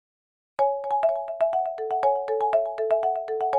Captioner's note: calm chime